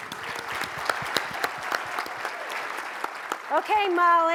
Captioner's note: audience applauds